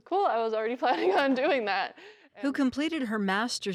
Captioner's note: laughs